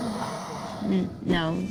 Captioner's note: sounds of werewolf and zombies